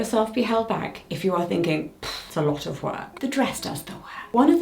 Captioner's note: sighs